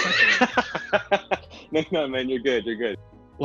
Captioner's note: laughs